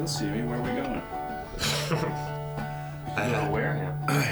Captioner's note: chuckles